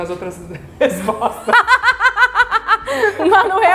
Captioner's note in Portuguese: risos